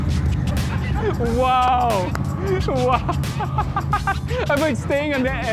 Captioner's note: laughs